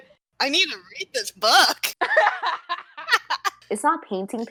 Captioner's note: laugh